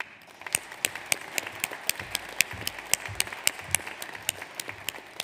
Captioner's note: audience applauds